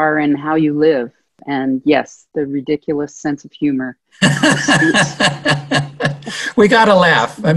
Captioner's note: laughter